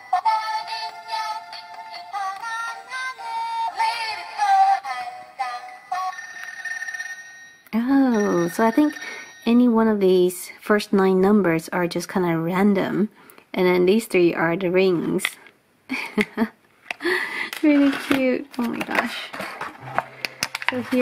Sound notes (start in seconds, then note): 5.9 telephone ring; 15.9 light chuckle